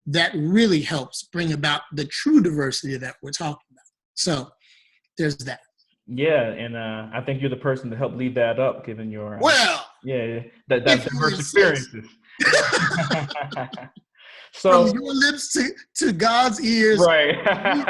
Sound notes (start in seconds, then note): 12.4 laughter